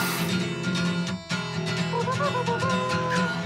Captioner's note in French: imite la fanfare